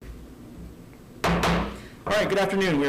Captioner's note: gavel bangs